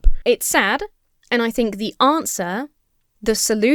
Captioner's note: none